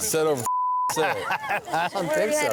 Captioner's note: beep; laughing